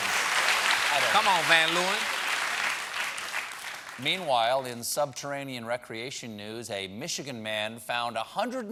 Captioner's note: cheers and applause